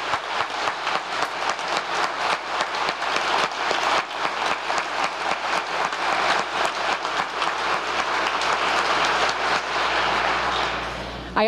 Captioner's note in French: applause